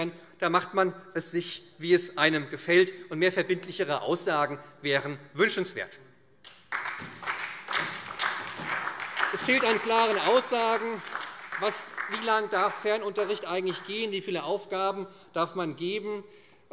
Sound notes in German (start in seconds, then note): 6.4 Beifall